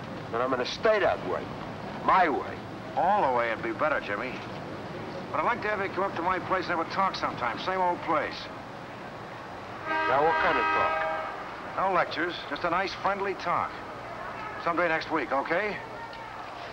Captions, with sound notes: And I'm gonna stay that way. My way! - All the way would be better, Jimmy. But I'd like to have ya come up to my place and have a talk sometime, same old place. (car honking) - Yeah, what kinda talkin'? - No lectures. Just a nice friendly talk. Someday next week, okay?